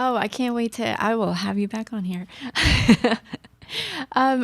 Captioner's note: laughs